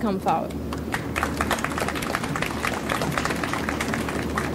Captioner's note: audience applauds